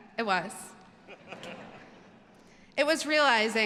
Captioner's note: all laugh